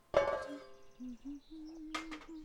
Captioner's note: pots clatter; humming